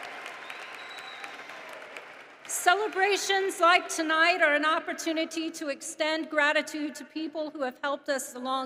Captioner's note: applause